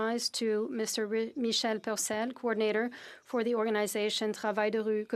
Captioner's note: speaking French